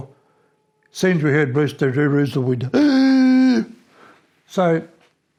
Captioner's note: gasps